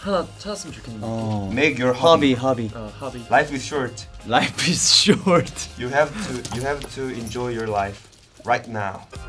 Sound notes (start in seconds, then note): 4.4 chuckles